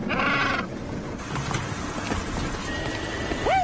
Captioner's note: sfx: LiMu squawks